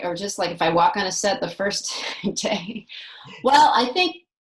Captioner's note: laughs